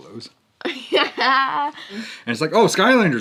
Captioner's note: laughs